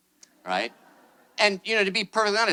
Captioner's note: attendees laughing